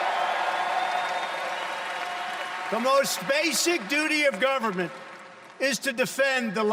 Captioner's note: cheers and applause